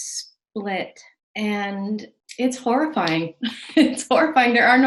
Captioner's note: laughs